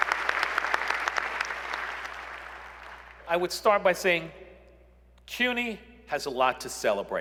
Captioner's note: applause